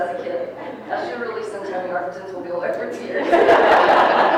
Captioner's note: people laughing